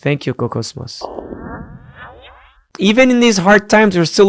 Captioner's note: laser firing